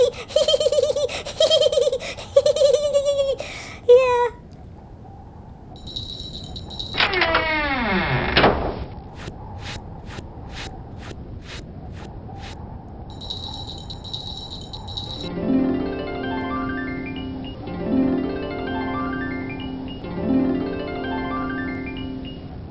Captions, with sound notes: ha ha ha ha ha ha yeah [ wind howling ] [ bells jingling ] [ door open then shuts ] [ footsteps ] [ bells jingling ] [ magical harp scales ]